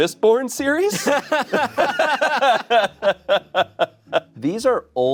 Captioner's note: everyone laughs